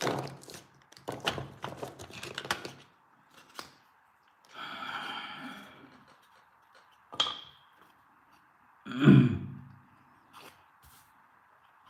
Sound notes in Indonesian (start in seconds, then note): 4.5 menghela napas; 4.5 terkesiap; 8.9 berdehem